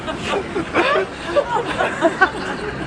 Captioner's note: laughter